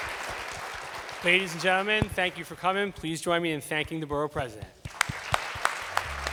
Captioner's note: applause